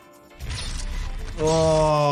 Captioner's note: blade clangs; blood sloshes